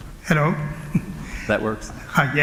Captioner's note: laughter